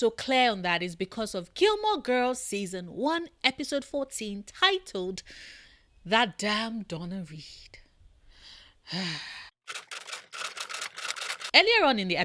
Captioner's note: sigh